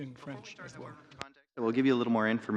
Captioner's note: speaking French